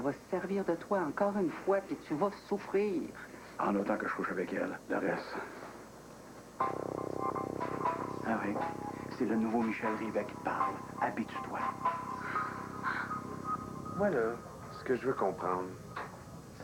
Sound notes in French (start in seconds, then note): 12.2 soupir